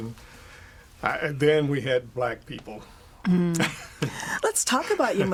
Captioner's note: laughing